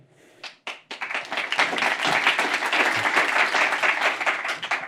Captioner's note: applause